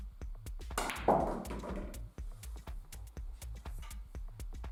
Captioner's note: balls clack